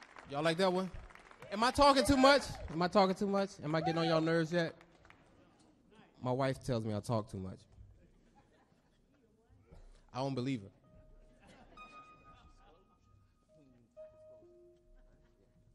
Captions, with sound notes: Y'all like that one? Am I talking too much? - Yeah! - Am I talking too much? Am I getting on y'all nerves yet? My wife tells me I talk too much. [audience chuckles] I don't believe her. [audience laughs]